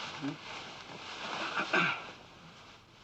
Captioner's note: Bond clears throat